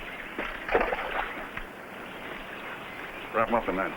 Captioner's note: water splashing